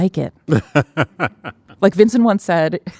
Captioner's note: laughing